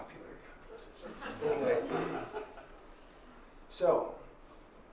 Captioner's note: laughter